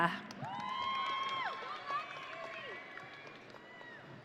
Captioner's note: audience cheering